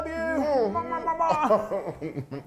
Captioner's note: chuckling